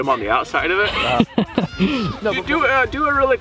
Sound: laughing

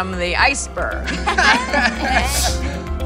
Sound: laughing; upbeat music

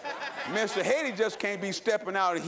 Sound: laughter

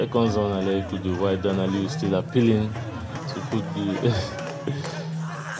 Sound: laughs

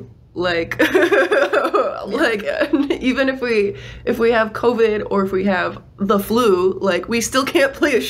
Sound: laughs

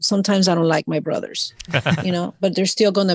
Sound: hosts laugh

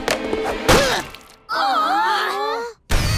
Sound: groaning

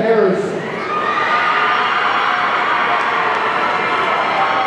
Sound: audience cheering

